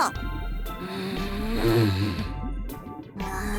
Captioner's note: irritated groan; equally irritated groan